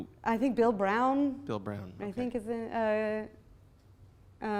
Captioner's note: voiceover